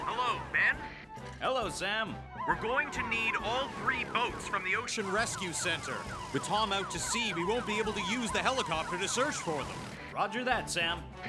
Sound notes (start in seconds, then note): 0.3 on Radio; 3.0 on Radio